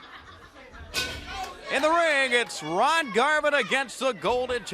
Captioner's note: crowd chatter